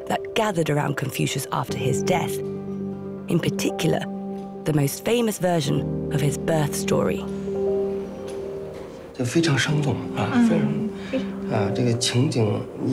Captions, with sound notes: that gathered around Confucius after his death, in particular, the most famous version of his birth story. (speaking Chinese)